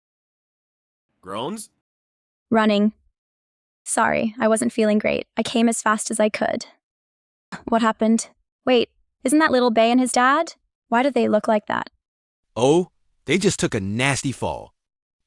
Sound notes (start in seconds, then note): 1.3 groans